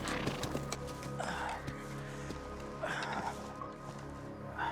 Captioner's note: sighing